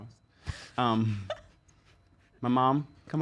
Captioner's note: laughs